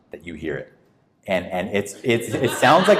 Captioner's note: audience laughs